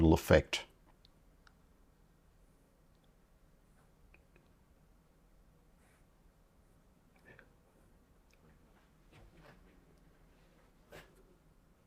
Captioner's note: silence